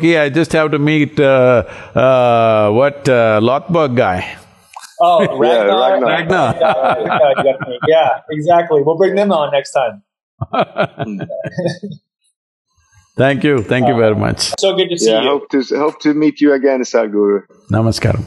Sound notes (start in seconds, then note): 4.8 laughs; 9.8 Sadhguru and Alexander Ludwig laugh